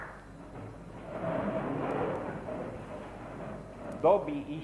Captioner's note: voice of chairs